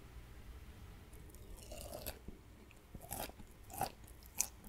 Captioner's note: eatong sound